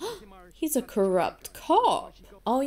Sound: gasps

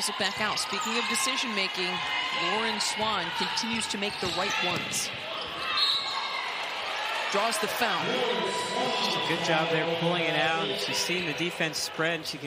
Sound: crowd noise

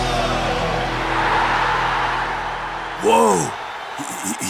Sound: crowd cheers

